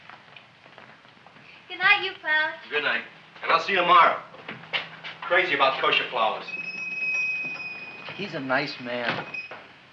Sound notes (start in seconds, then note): 6.4 shop bell chimes